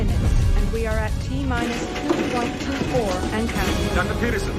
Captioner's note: rumbling